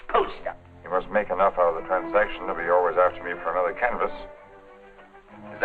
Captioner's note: none